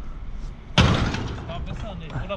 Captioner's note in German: krach